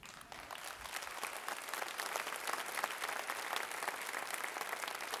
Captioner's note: applause